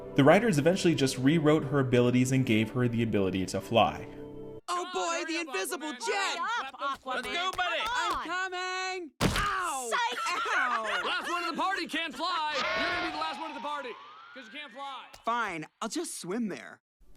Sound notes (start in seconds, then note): 9.6 laughing